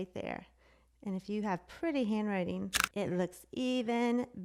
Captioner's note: clicks